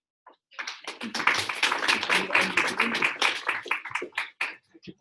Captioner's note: audience applauds